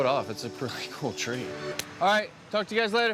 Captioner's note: hands slapping